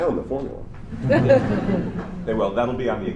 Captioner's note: laughter